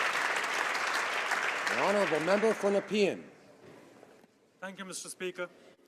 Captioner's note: some Applause